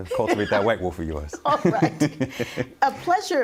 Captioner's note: laughing